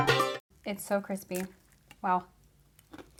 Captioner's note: crunch